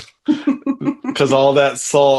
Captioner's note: laughs